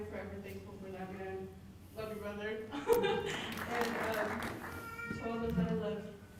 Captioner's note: applause